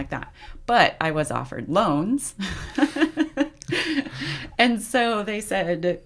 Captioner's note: laughs